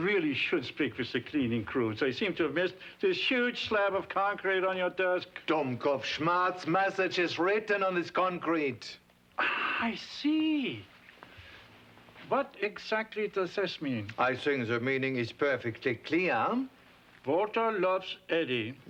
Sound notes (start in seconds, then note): 5.4 speaks foreign language